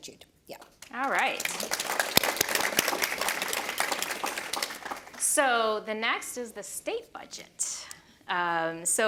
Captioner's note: applause; applause continues